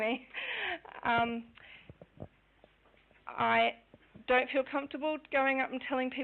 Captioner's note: laughing